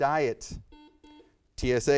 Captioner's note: buzzer beeps